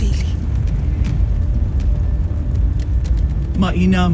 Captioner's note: fire crackling